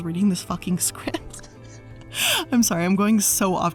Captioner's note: laughs